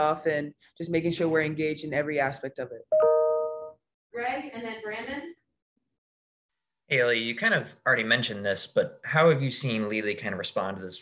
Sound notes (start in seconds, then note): 3.0 chime